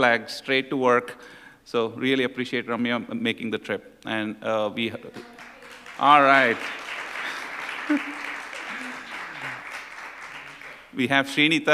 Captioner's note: applause